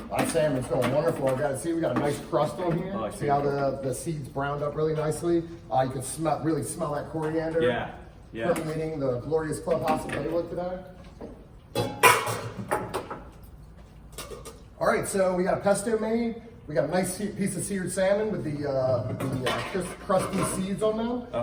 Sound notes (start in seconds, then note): 11.7 pans clattering